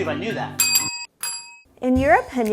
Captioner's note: bells dinging